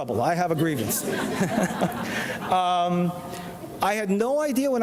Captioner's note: audience laughs